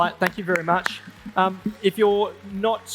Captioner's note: everyone claps